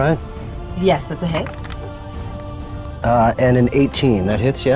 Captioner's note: die rattling